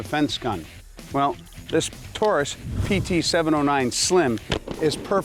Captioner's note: fires gun